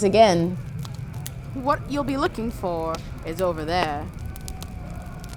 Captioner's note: A light old-timey Voice, identical to last time